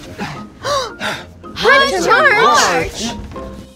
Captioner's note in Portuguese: Suspiro de surpresa